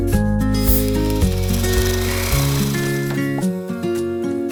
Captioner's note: upbeat music; reel rolling